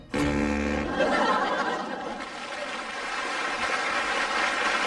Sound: audience laughing and clapping

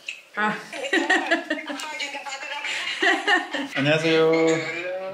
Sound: laughs

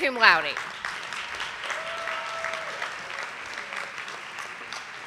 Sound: audience applauding

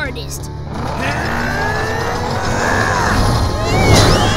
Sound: groaning; screaming

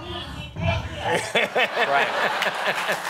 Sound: laughs

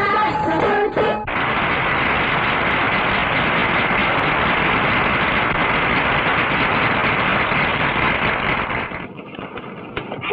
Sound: applauding

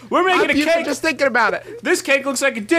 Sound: Griffin shouted over this part

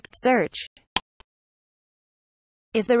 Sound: click sound

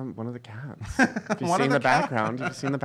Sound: laughing

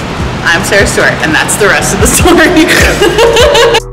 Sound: huge laugh

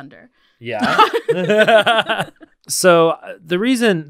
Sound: all laughing

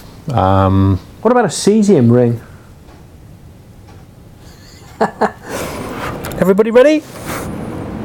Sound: laughs

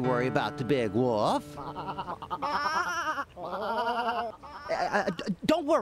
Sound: sheep bleating

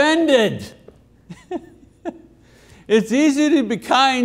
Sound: chuckles

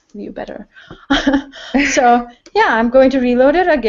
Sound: laugh

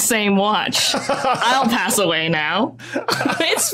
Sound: laughs

